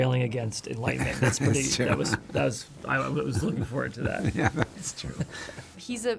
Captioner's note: laughs